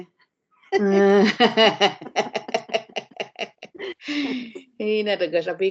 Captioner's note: both laughing